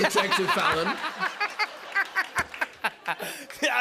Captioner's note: laughter